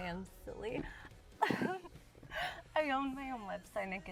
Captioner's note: Julie laughs